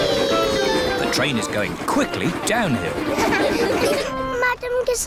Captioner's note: laughter